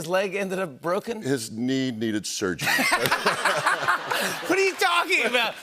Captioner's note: laughter